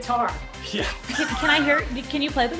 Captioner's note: laughs